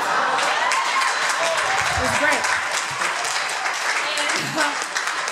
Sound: crowd cheers and applause

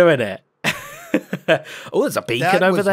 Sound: laughs

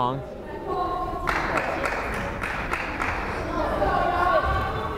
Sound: fan applauding

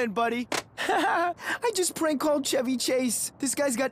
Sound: chuckles

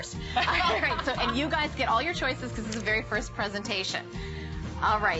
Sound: laughter

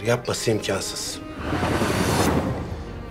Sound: transition sound

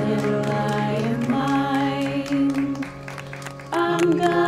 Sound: clapping

